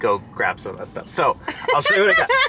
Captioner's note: laughs